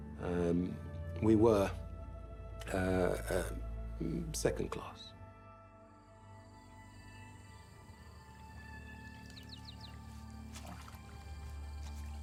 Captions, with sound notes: And we were, uh-um, second class. [crickets] [birds chirping] [water splashing]